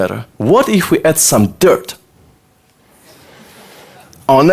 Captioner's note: audience laughter